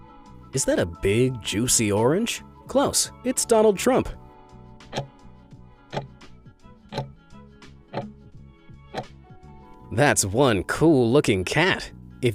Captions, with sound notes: Is that a big, juicy orange? Close, it's Donald Trump. (timer ticking) That's one cool looking cat.